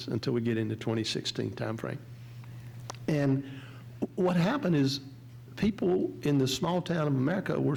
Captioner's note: none